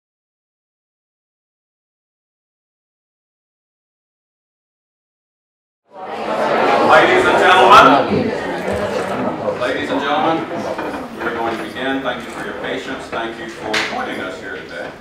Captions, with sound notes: [ Background Conversation ] >> Ladies and gentlemen. We're going to begin, thank you for your patience, thank you for joining us here today.